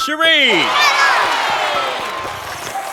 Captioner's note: slurps